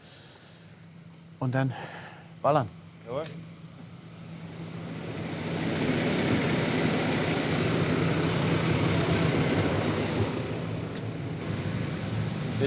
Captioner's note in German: Motor brummt